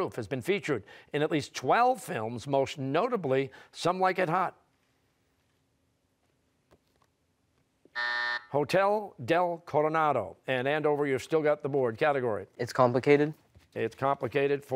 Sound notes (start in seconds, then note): 7.9 buzzer